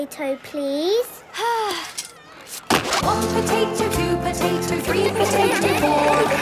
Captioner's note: Belinda sighing; laughter